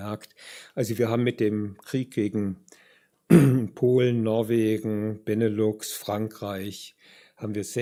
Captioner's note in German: räuspern